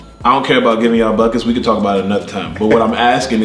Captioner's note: laughs